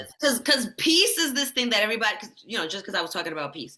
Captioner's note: none